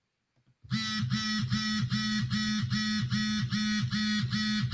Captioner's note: phone vibrating